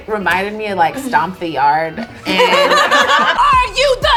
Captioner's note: group laughs